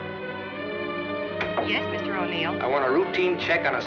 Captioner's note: on phone